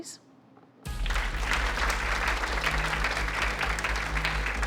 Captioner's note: audience clapping